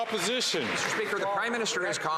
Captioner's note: applause